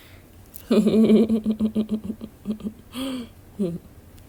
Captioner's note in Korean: 웃음